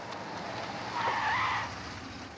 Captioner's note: tires screech